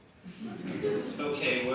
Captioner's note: audience laughing